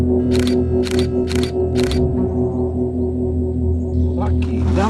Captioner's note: camera shutters